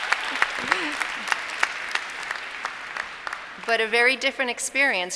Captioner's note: applause